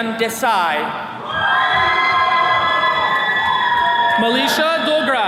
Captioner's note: attendees cheering